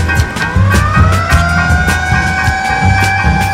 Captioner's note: siren wailing